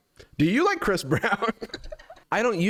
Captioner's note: laughs